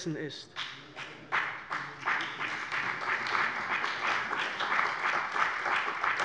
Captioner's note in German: Beifall bei der CDU und dem BÜNDNIS 90/DIE GRÜNEN